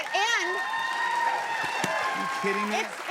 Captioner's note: cheers and applause